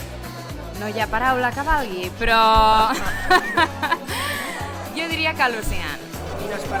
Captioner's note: laughs